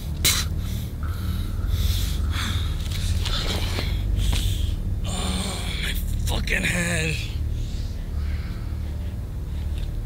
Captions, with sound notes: (spits) (groans) My fuckin’ head.